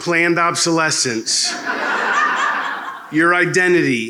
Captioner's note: laughter